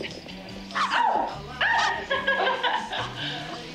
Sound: screaming, laughing; barking

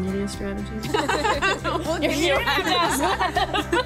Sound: all laugh

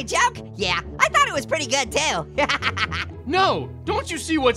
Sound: laughs

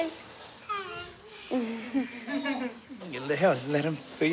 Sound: chuckles

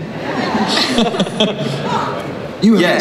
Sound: laughter

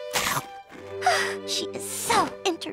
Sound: sighing

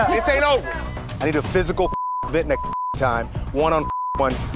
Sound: beep

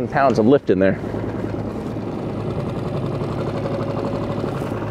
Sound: truck rumbling

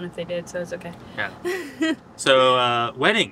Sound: laughs

